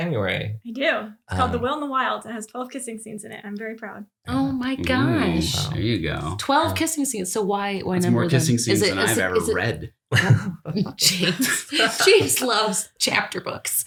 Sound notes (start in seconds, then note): 10.1 laughs